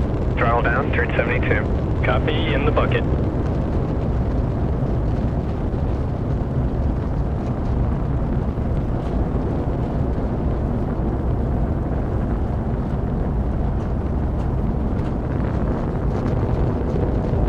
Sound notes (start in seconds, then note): 7.0 wind noise